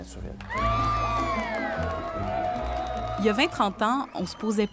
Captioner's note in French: cris des spectateurs